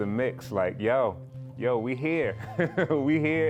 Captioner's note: risada